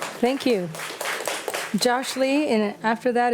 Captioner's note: audience applauding